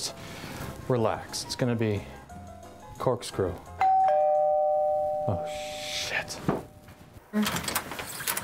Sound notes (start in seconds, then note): 3.8 doorbell